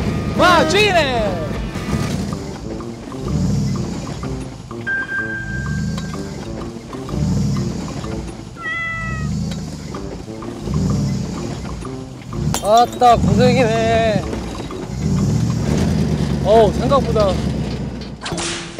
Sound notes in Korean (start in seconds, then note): 1.9 덜컹 덜컹